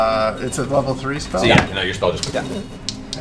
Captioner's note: pfft